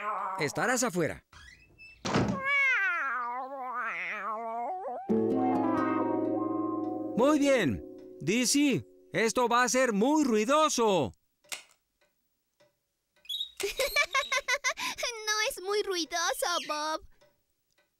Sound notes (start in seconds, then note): 2.0 door Slams; 11.5 click!; 13.6 giggling